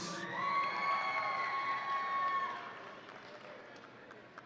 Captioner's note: audience cheering